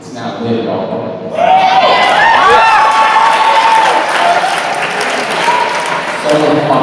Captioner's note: cheers